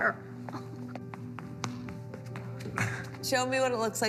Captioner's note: footsteps click-clacking